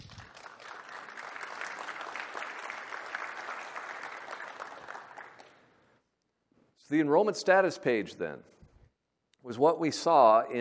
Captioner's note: applause